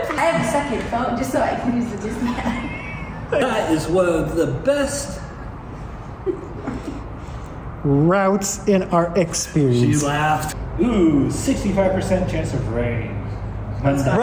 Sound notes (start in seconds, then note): 6.6 laughs